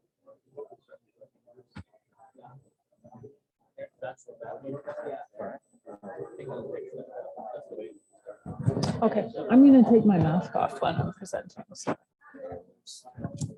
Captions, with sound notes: [SIDE CHATTER] OK, I'm going to take my mask off when I'm presenting.